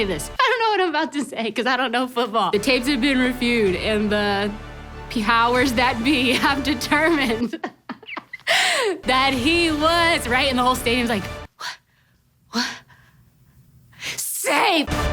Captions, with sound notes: I don't know what I'm about to say 'cause I don't know football. The tapes have been reviewed and the powers that be have determined (laughs) that he was, and the whole stadium's like, "What?" Safe.